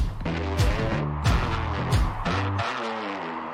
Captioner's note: crowd cheering